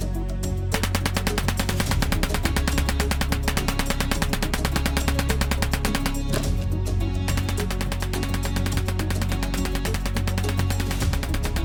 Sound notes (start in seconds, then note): 0.0 suspenseful music continues; 0.7 bullets popping